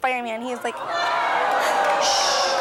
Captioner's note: audience gasps